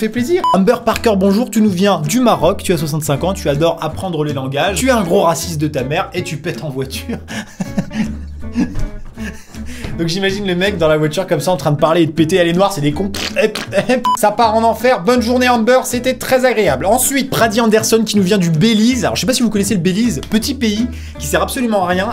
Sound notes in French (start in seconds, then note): 13.1 bruit de pet; 13.1 buit de pet